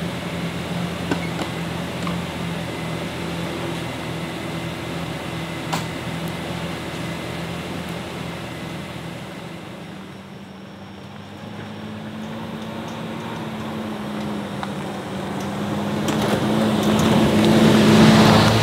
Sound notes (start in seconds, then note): 1.3 gate clanging; 4.0 car engine revving; 11.5 car engine revving